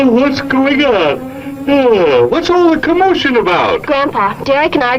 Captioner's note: yawns